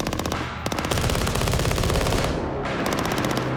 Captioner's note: gunfire